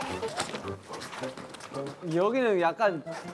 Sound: clicking clomping, sincere STEP

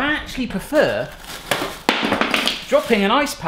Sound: thudding sound

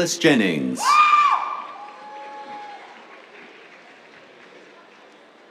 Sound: cheers, applause

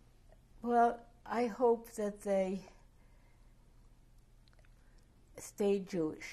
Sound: pauses for 3 seconds

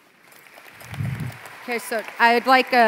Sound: applause

